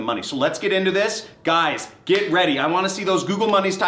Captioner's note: slapping